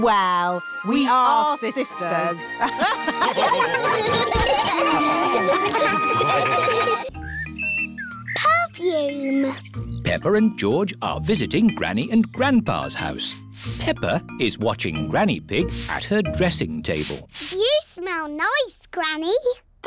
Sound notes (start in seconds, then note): 2.6 all laugh